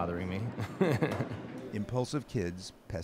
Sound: laughter

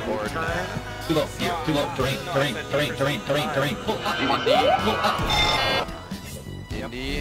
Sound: plane System Sound effect; engine noise, siren noise; bell noise, Electronic beep noise

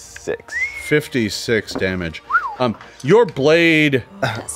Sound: whistles

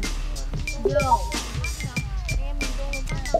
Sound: chatting

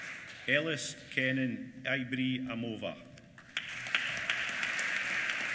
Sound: applause

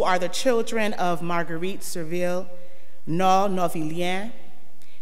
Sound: speaks in foreign language

